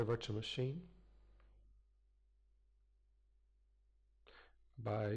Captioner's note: pause